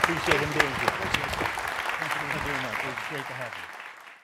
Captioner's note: audience applauding